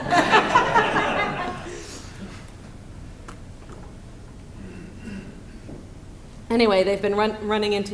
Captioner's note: laughter